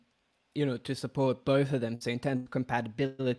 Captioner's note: audio distorting